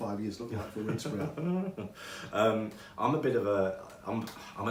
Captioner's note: chuckling